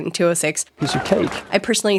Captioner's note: person cheering